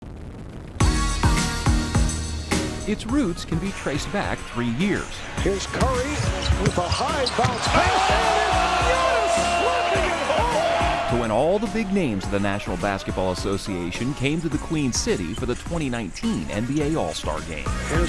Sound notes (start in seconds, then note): 1.0 upbeat music; 8.1 audience cheering